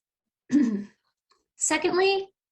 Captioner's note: clears throat